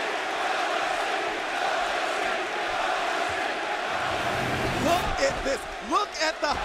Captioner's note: crowd cheering